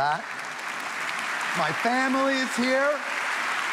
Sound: audience applauding

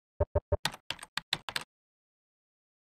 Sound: typing sounds

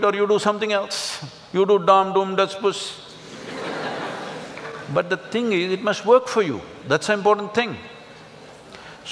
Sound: laugh

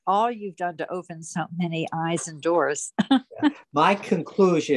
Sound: laughs

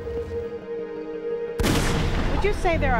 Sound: gun shot firing

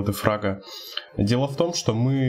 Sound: inhale

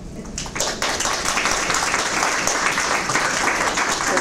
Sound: applause

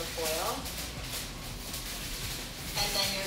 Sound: foil rustling

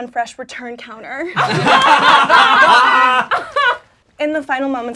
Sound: laughing

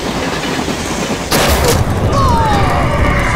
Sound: gunshot

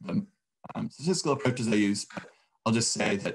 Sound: audio cutting out

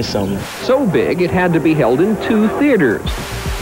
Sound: tv static

